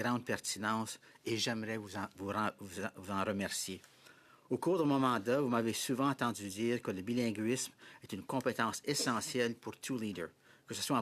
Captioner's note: speaking French